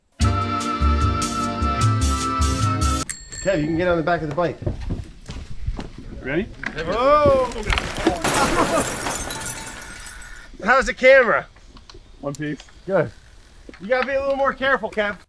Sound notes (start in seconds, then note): 0.2 upbeat music; 3.0 bike bell dinging; 7.3 glass breaking